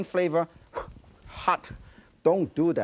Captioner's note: Yan blows